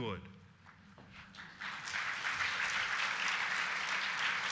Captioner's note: applause